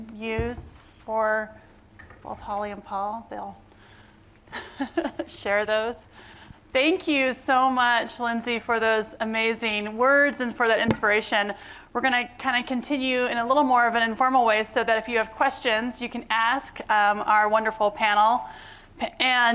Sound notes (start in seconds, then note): 4.5 laughter